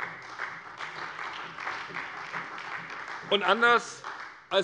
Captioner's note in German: Beifall bei der SPD